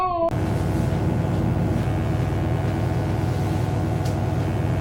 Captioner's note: electric buzzing